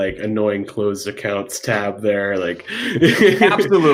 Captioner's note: chuckles